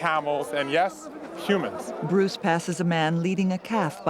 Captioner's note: chattering in native language